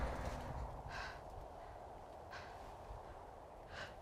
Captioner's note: panting